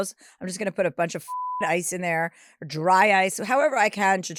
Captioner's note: beep